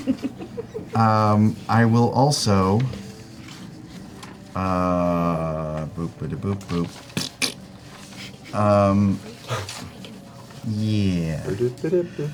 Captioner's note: nervous laugh; raspberry sounds